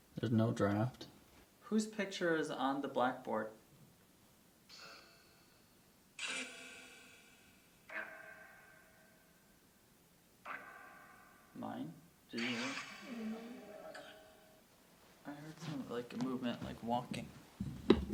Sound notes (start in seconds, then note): 4.9 static crackles, echoes; 12.5 static crackles